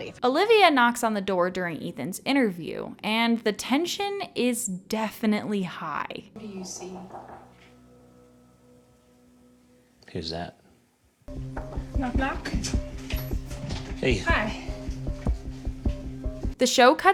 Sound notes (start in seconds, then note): 6.5 faint knocking